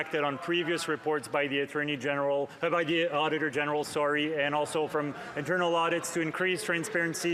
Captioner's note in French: voix de l'interprète